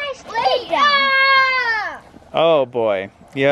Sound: yells

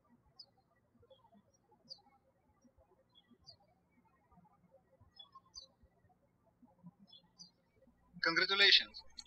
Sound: birds chirping

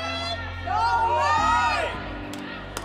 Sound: crowd

